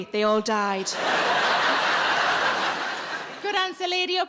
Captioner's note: audience laughing